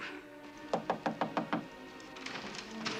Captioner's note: knock on door